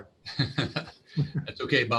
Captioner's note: laughing